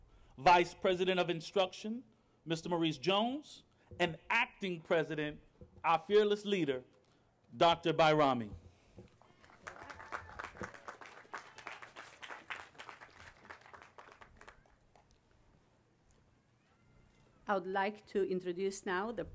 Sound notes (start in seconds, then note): 12.1 applause